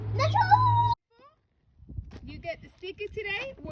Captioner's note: child screaming